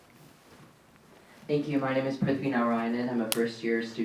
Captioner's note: faintly speaks